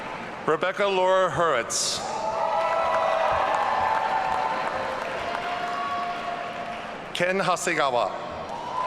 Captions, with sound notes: Rebecca Laura Hurwitz. (audience cheering) Ken Hasegawa.